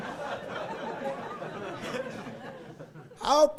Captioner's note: laughing